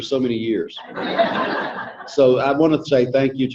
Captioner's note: audience laughing